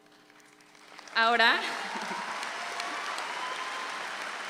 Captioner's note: audience applauds